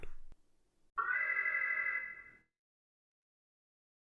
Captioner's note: alarm